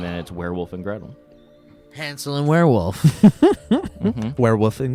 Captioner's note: laughing